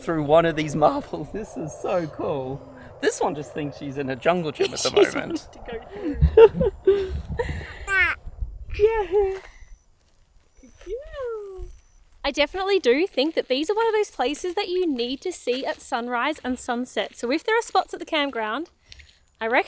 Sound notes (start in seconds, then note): 7.3 laughs